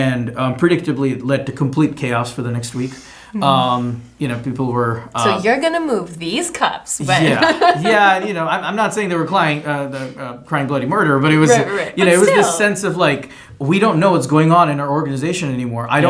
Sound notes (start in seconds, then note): 7.1 laughs